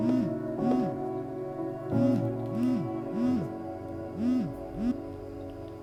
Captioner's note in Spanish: Vibra el celular